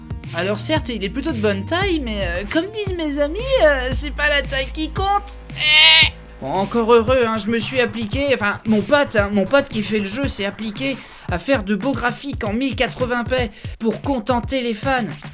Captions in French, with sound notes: Alors certes il est plutôt de bonne taille mais comme disent mes amis ... "C'est pas la taille qui compte" ! [Rire de débile] Bon, encore heureux hein, j'me suis appliqué ... Enfin, mon pote hein, mon pote qui fait l'jeu s'est appliqué À faire de beaux graphiques en 1080p, pour contenter les fans !